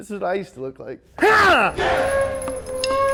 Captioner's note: martial arts shout; yells; gentle bamboo flute